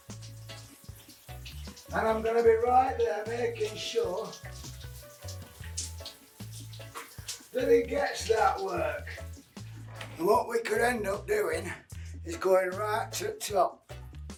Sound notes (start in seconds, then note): 0.9 laid back music; 0.9 shower runs; 4.4 laid back music; 4.4 shower runs